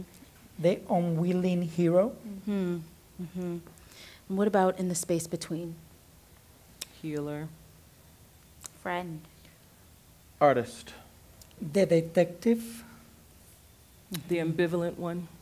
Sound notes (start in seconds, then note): 6.4 click; 13.9 click